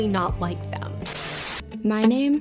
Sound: static crackling

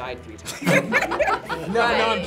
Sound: group laughs

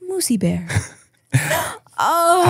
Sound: both chuckling

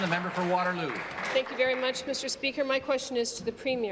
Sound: applause

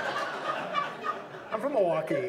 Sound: audience laughs

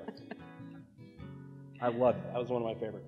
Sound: laughs

